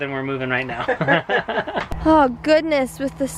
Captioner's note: laughing